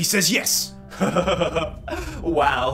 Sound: ominous laughter

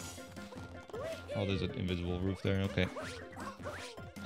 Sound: whispering

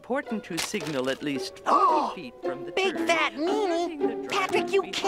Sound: gasping

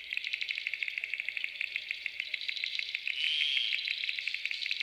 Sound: croaking frogs

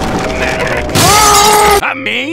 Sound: death scream

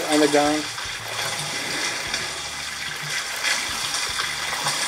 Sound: water splashing

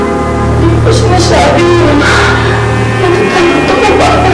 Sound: exhales

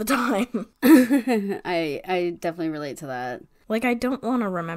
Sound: laughs

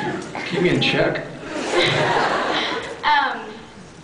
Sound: laughs

